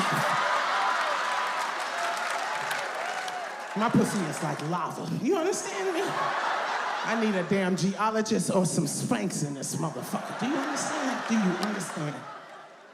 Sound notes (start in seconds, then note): 0.0 audience laughs; 5.0 audience laughs